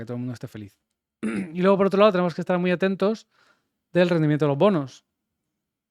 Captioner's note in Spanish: carraspeo